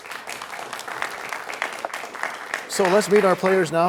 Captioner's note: applause